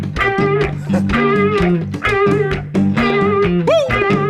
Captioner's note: man laughs